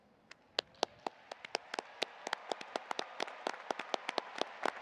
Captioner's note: audience applauding